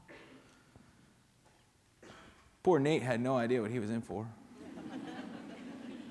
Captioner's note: laughter